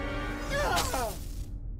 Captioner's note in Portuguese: grita